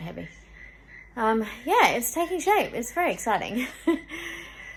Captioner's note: chuckles